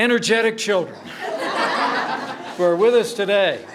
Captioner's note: laughter